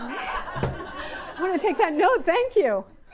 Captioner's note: audience laughing